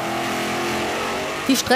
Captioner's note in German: Motordröhnen